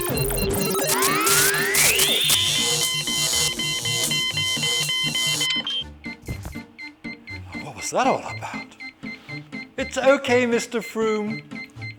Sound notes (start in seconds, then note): 2.2 loud beeps